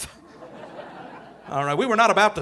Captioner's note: audience laughing